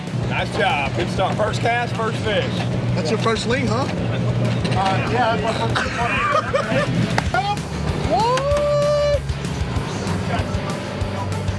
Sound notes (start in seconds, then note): 6.3 laughing